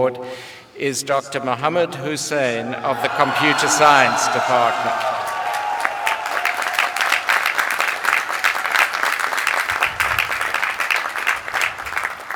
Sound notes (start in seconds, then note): 2.8 applause